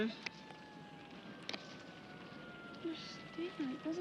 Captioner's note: sirens approaching